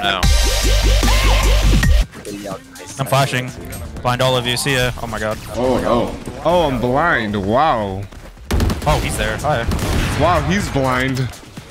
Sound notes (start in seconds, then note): 0.0 upbeat music; 8.4 guns firing